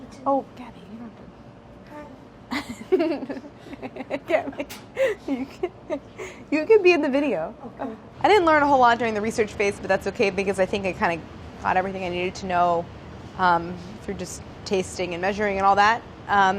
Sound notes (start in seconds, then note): 2.5 laughs